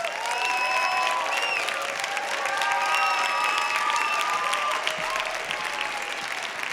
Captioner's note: applause